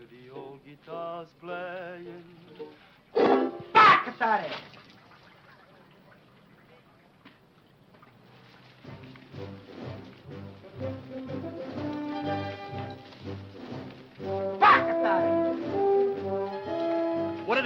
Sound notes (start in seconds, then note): 3.1 ukulele strums; 3.3 speaking foreign language; 8.8 determined music; 14.8 speaking foreign language